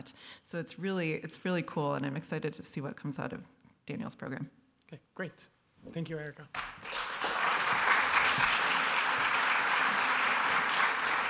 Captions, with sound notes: So it's really-- it's really cool. And I'm excited to see what comes out of Daniel's program. - OK, great. Thank you, Erica. [applause]